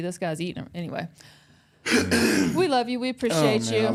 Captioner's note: Mark coughs